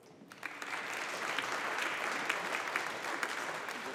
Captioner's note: audience applauding